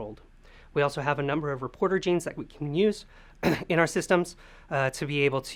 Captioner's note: cough